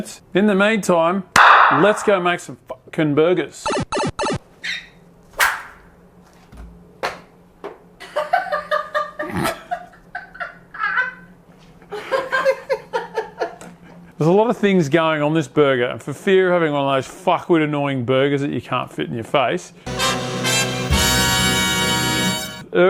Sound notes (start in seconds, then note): 8.0 laughter; 11.5 more laughter; 19.8 dun dun duuunnn